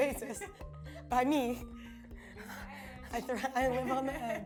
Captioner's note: laughs; soft music